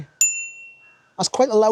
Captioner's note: bell dings